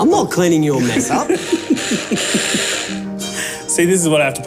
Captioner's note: laughing